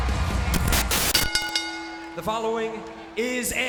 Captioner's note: audience cheering and clapping; screen hisses; bell rings